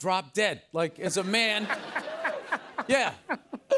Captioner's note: laughter